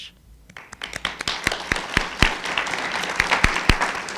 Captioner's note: applauding